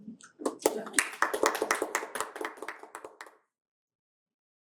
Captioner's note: applause